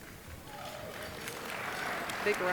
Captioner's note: applause